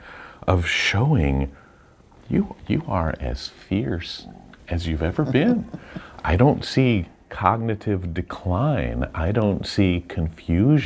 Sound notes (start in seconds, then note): 4.7 chuckles